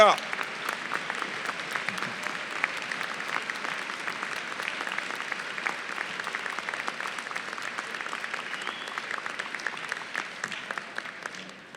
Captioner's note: applause